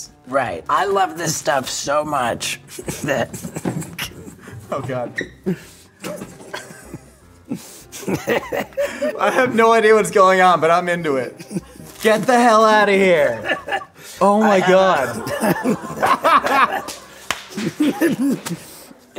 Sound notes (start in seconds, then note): 15.3 laughing; 16.9 applause